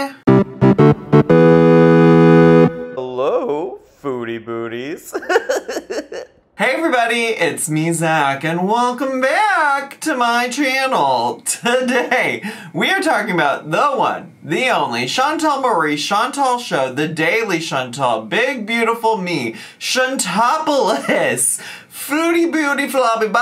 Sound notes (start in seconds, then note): 0.2 bright music; 5.0 giggles